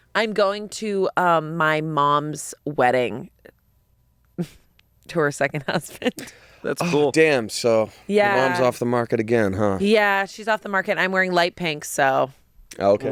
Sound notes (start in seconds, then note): 5.7 chuckles